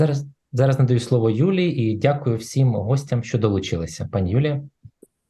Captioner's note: foreign Language